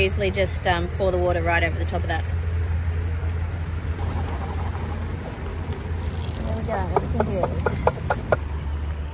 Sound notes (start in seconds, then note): 5.9 rattling and water pouring; 7.5 more rattling